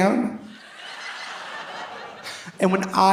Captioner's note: audience laughing